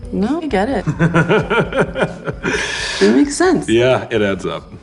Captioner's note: laughs